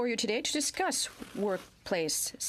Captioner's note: speaking in French